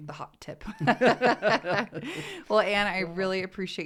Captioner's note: laughter